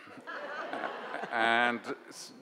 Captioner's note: audience laugh